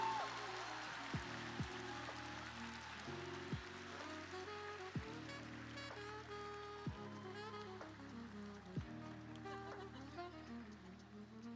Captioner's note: cheers and applause